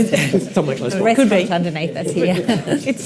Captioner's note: panel chuckles